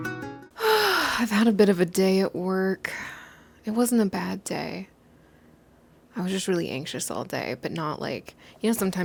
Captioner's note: dramatic sigh